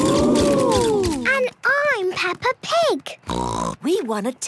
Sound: snort

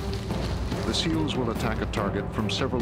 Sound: voiceover

